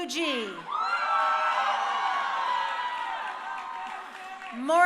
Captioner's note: crowd cheering